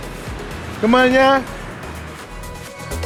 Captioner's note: speaking in Vietnamese